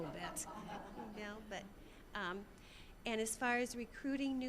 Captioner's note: audience laughing